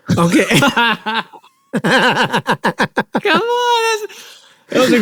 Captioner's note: laughing